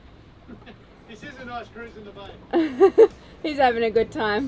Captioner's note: laughs